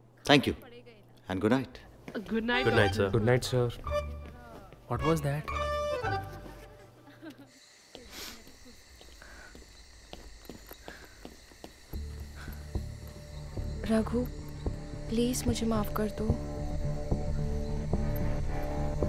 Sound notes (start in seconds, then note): 7.9 Footsteps; 8.0 Sniffs